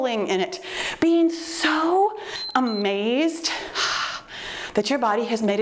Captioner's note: timer beeps